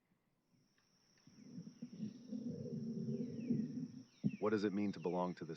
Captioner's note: thunder rumbling, birds chirping